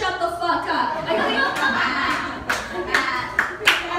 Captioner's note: laughter, applause